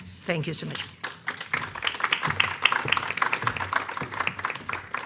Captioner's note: audience applauding